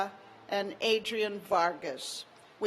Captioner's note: none